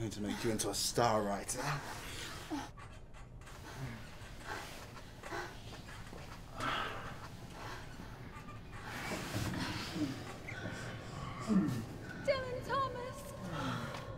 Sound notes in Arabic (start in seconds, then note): 3.5 أنين